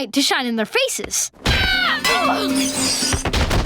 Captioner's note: screaming